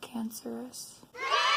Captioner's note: children cheering